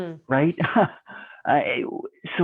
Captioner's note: chuckles